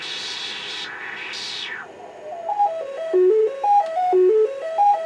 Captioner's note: noise turns into pitches